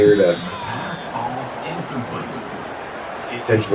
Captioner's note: crowd Noises